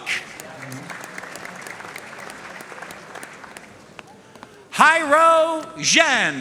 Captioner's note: audience cheering and applauding